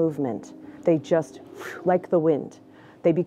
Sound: mouth whooshing

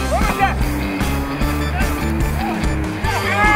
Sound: all yelling

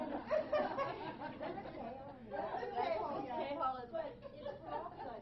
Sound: laughing

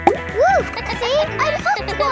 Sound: kids laughing

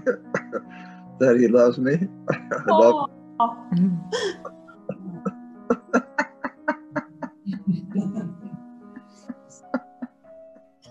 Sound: laughter; laughter

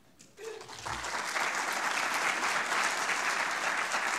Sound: audience clapping

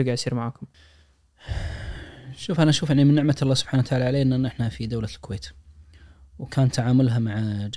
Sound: sighs

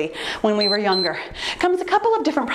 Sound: timer beeps

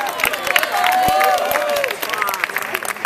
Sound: applause

